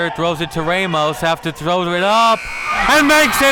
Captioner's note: buzzer buzzes